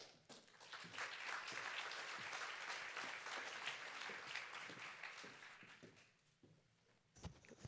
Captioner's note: applause